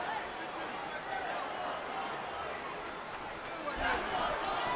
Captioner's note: crowd murmuring